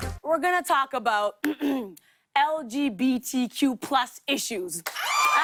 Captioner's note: clears throat; cheers and applause